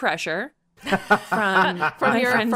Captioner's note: laughs